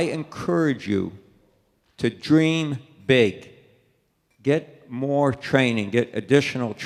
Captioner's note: none